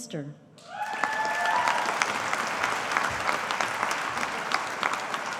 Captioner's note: audience applauding